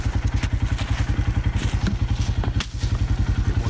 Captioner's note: engine rumbling